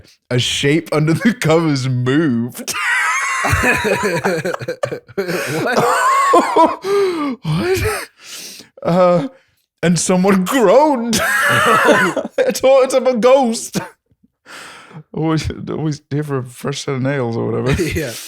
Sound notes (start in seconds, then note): 2.6 laughter; 10.1 laughter